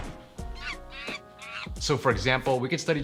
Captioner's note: bird chirps